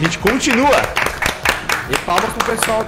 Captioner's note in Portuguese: palmas